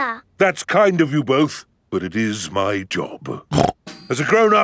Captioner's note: snorts